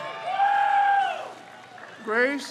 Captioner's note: crowd cheers